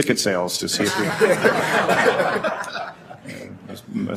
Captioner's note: laughter